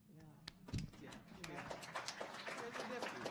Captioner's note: audience applauding